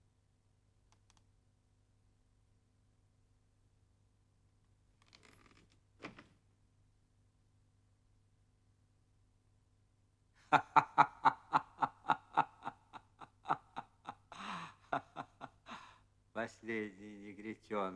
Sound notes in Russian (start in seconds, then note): 14.8 Смех